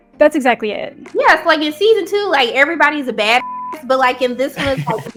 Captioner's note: beep